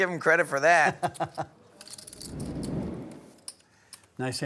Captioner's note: laughter